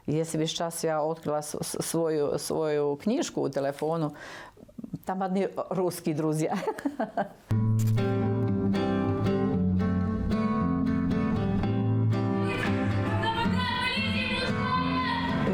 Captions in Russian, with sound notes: Если бы сейчас я открыла свою книжку телефонную, там одни русские друзья. (смеётся) (фоновая музыка) (кричит)